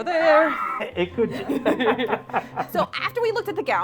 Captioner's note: laughs